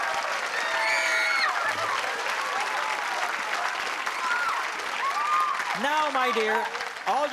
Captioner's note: applause